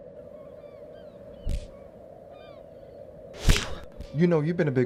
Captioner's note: gulls screeching